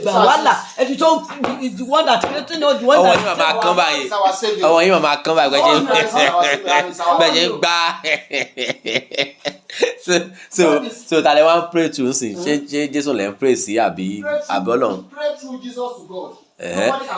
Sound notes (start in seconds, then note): 5.6 laughing